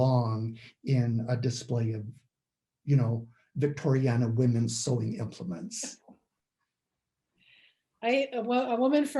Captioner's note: laugh